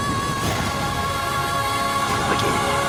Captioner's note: woman screaming